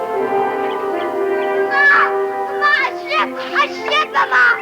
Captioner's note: laughs